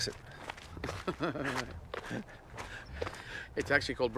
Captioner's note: laughs